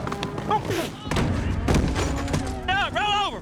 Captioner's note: shouts